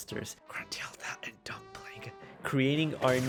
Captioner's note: whispering